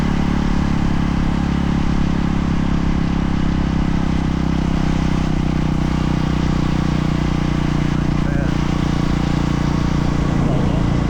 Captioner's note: engine revving